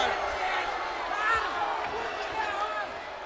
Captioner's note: Steiner ranting